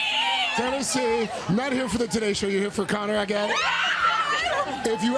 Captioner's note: cheers and applause